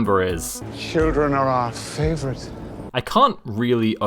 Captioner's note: doppler creep